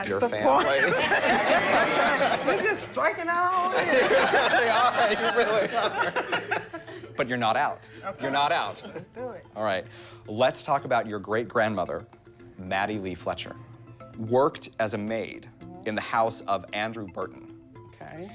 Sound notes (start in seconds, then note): 0.4 laughter